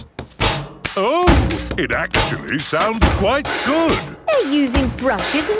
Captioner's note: rhythmic clanging